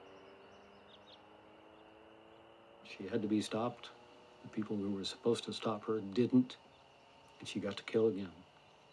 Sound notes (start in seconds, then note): 0.9 birds chirping